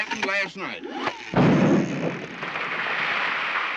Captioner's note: explosion